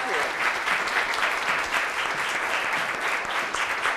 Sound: applause

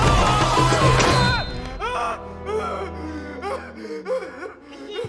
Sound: screams; sobbing loudly; Baba giggling

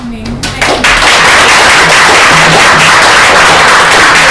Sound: applause

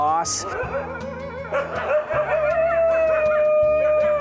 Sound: wolf howling

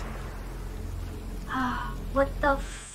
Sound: gasps

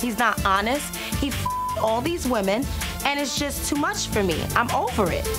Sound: beeps

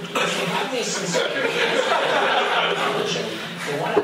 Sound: laughter

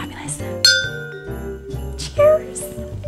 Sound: clinking glasses

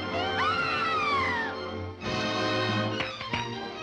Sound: screams

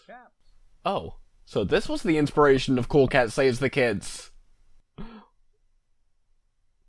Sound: gasp

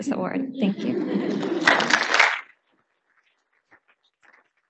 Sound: audience applauding

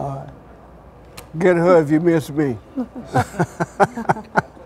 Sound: laughs

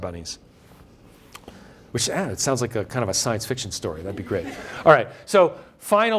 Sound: laughter

